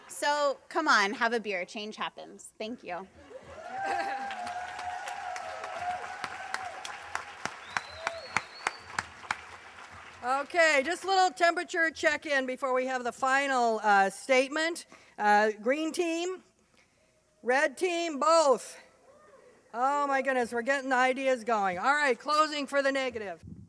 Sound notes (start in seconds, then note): 3.4 applause